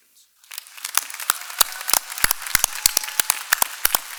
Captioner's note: applause